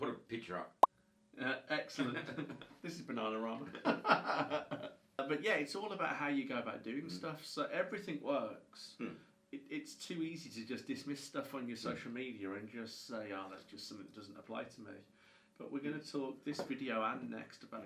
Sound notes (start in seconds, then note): 1.0 picture pops; 3.7 both laugh; 3.8 laughs